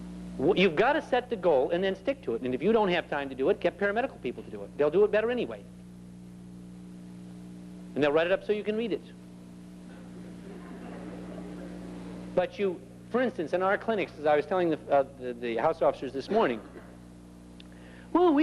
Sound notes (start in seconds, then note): 8.9 laughter